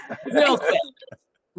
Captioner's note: laughing